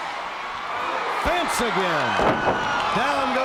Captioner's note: body thuds